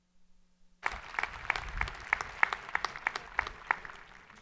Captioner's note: people clapping